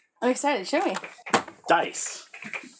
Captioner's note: laughing